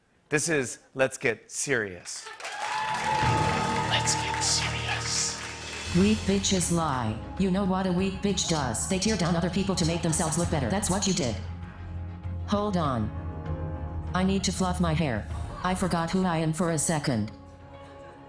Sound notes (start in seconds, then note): 2.2 cheers and applause; 4.0 whispers